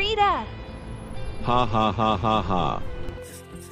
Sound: chuckles

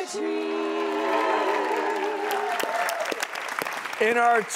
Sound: crowd applause

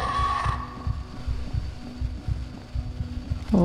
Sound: chase music ends Heart beating hard

